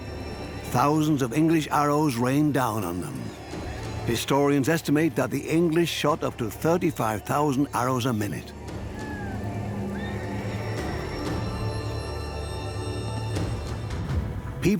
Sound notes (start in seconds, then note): 9.9 horse whinnies